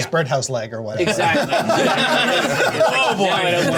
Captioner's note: laughter